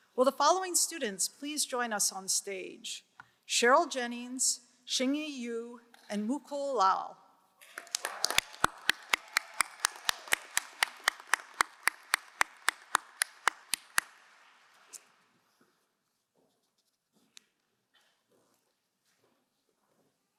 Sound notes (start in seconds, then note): 7.6 crowd cheering and applauding